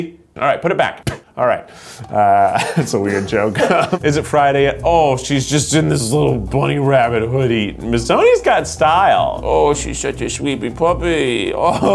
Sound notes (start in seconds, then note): 2.1 laughs